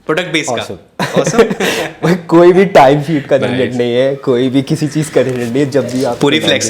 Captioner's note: laughs